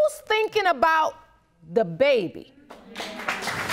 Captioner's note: audience applauding